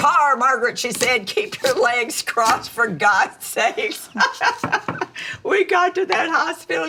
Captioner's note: laughs